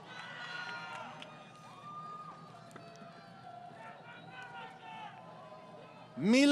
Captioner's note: crowd Cheering